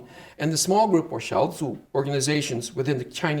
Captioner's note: speaking Chinese